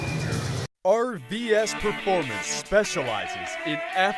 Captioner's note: voiceover